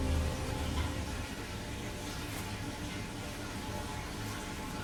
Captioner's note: water running